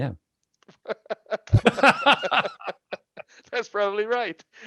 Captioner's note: laughing